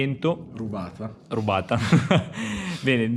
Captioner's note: laughs